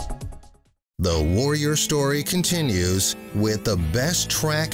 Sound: voiceover

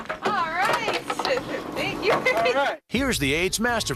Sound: chuckles

